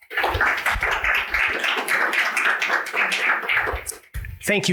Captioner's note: audience applauding